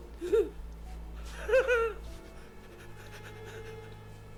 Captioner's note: laughter